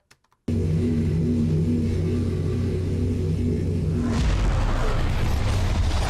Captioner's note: portal makes otherworldly noises